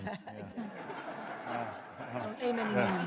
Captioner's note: laughter